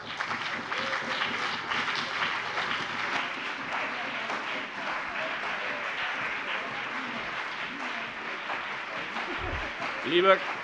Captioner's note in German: Anhaltender Beifall BÜNDNIS 90/DIE GRÜNEN und CDU